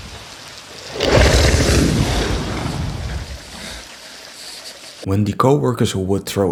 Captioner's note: growling and Intense Breathing